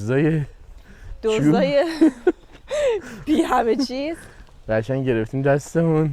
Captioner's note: laughs